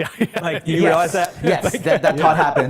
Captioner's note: laughs